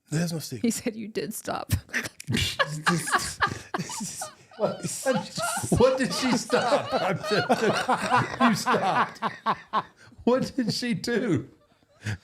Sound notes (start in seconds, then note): 1.9 Michelle and Undertaker laughing; 6.9 Truth laughing